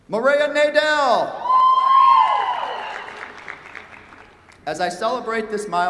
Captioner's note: cheers, applause